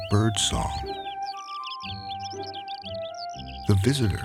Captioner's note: birds chirping